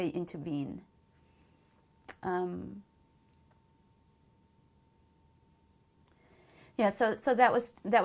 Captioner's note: pauses for 6 seconds